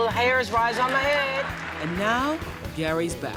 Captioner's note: applause